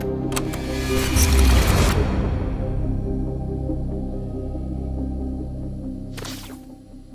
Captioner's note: ominous music continues; tape clicks